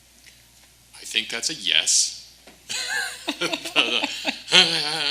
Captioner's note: laughs